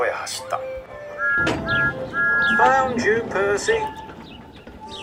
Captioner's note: peeps loudly